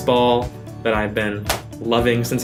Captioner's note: claps